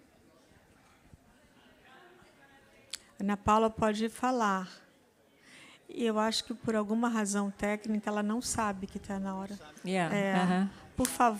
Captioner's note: speaks Language